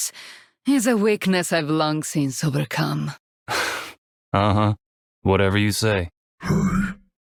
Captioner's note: gasp